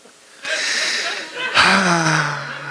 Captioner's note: sighs